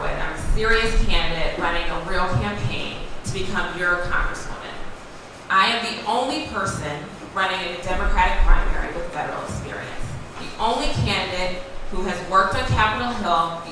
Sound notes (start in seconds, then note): none